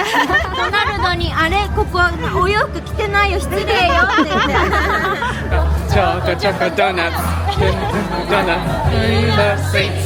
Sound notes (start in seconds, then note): 0.0 all laughing; 2.3 guide speaking Japanese